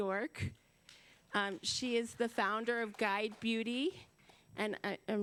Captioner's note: applause